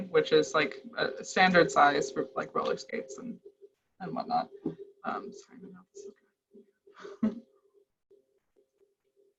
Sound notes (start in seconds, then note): 7.0 mumbles, laughs